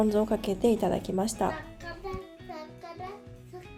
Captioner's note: children's voice